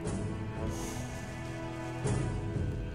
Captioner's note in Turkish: Nefes veriyor